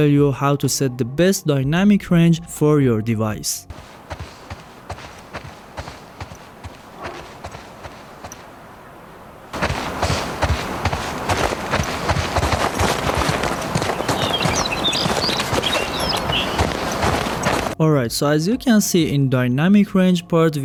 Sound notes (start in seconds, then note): 3.7 foot step sounds; 9.4 louder foot steps sounds; 13.6 loud bird sounds